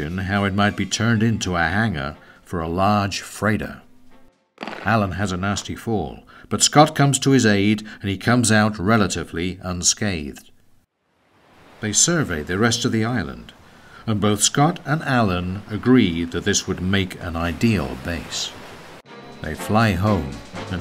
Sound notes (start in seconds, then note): 4.6 rocks clattering; 11.0 waves rustling; 19.1 dynamic music